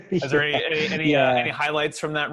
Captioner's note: laughing